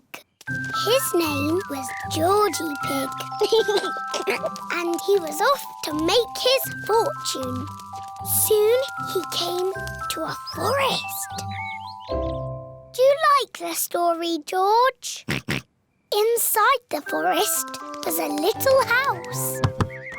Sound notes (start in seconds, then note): 3.3 giggles; 15.2 oinks